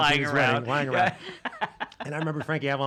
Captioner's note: laughing